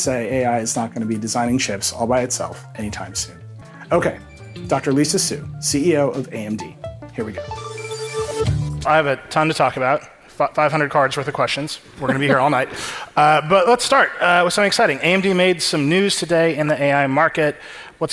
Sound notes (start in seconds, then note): 7.8 futuristic music; 12.0 Dr. Lisa chuckling